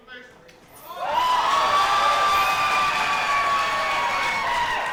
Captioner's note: crowd cheering